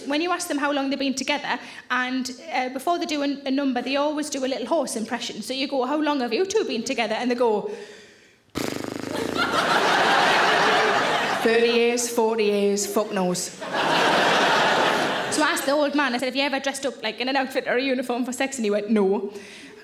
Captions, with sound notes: when you ask them how long they've been together and before they do a number, they always do a little horse impression. So you go, "How long have you two been together?" And they go- (exhaling and sputtering) (audience laughing) 30 years, 40 years, fuck knows. (audience laughing) So I asked the old man, I said, "Have you ever dressed up like in an outfit or a uniform for sex?" And he went, "No."